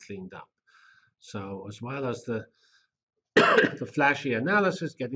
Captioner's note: cough